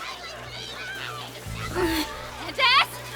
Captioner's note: Molly grunts in discomfort